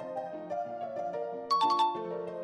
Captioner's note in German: Klingeling